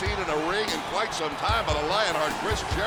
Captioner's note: bell ringing